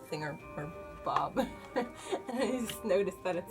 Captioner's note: laughs